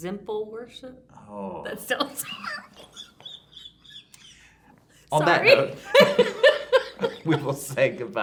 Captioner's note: laughter